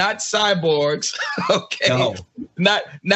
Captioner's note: laugh